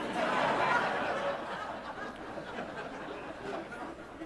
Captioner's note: audience laughs